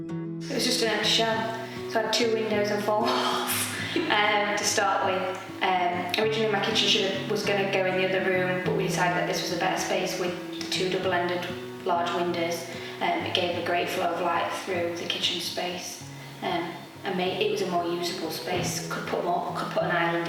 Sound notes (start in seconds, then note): 3.0 laughs